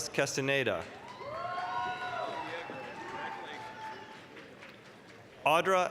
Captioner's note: applause, cheering